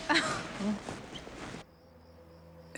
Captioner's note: laughs